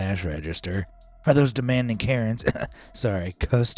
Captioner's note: clear throats